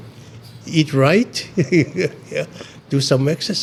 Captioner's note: laughs